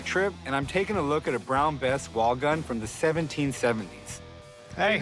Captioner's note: none